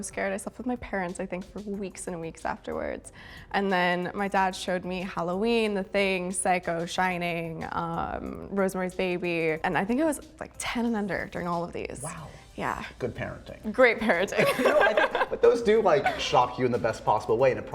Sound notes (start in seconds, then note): 14.4 laughs